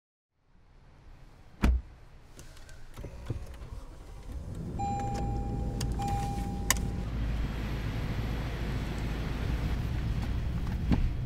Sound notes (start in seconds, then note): 2.4 car door shuts; 4.6 car controls beep